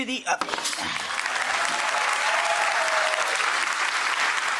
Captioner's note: audience applauding